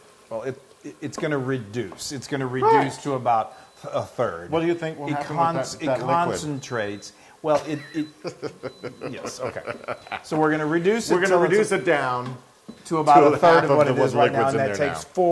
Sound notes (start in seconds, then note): 7.6 laugh